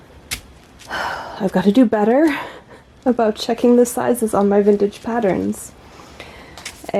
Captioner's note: sigh